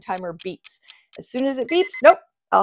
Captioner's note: timer beeping